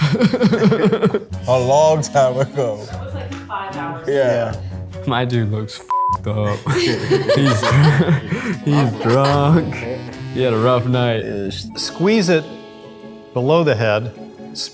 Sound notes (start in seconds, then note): 0.0 laughs; 6.3 group laughs